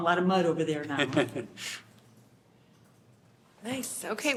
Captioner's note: laughter